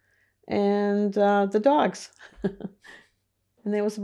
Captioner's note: laughing